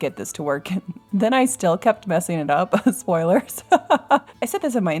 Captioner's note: laughs